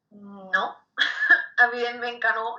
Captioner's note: laughs